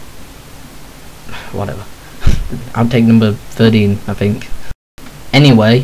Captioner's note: sigh